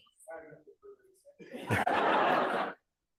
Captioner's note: laughter